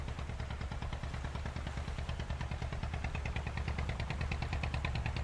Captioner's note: boat passing